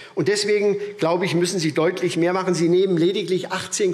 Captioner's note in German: none